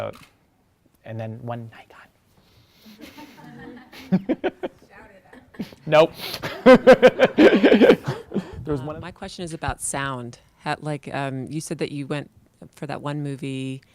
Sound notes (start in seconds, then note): 2.9 audience laughs; 6.1 laughing